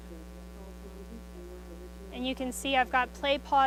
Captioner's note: computer voice continues